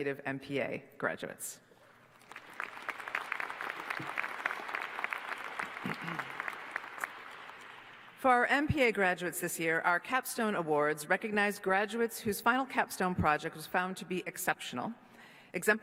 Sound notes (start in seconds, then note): 2.1 applause